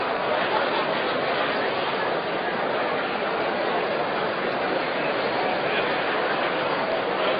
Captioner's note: general crowd noise